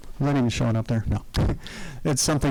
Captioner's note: chuckling